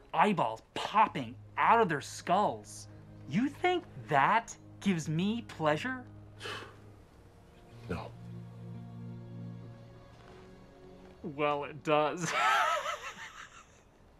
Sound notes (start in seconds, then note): 6.4 sighs; 12.2 laughs